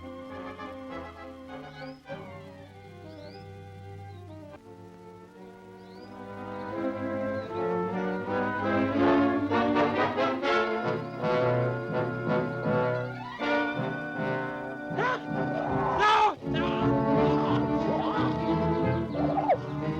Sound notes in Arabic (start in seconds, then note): 14.9 صراخ